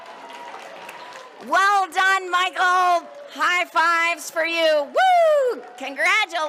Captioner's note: cheers and applause